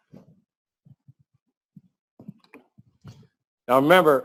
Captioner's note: pause